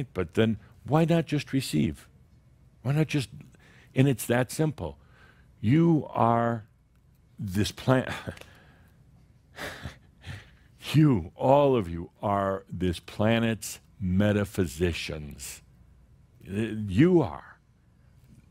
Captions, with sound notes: But then why not just receive? Why not just – and it’s that simple. You are – this plan- … (Adamus chuckles and sighs) You, all of you, are this planet’s metaphysicians. You are.